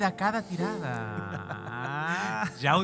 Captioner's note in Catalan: riuen amb complicitat